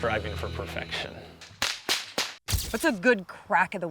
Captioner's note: whip cracking